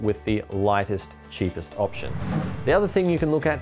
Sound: swoosh

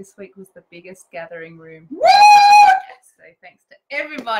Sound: cheers

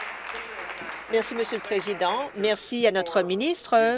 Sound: applause

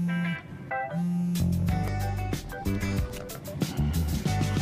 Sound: cell phone rings

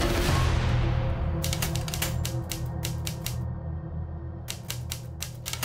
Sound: typewriter keys clacking

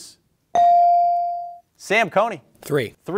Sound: bell ringing

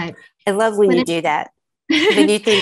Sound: laughing

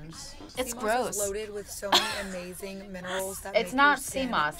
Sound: laughs

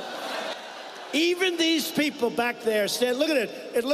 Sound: audience reacts

